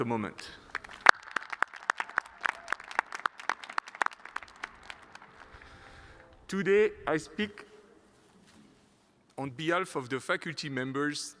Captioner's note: applause